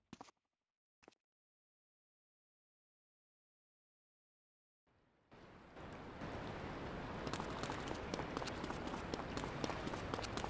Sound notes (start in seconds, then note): 7.1 keyboard clicking